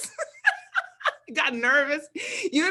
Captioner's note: both laugh